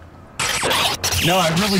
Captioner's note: audio jumbling